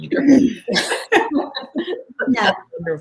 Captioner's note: unanimous laughter